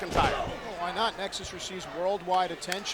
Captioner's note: body thudding; footsteps plodding